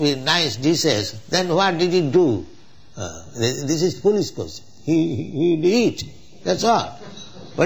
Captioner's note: laughter